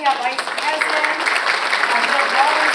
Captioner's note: audience applauds